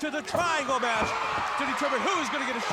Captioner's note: crowd cheering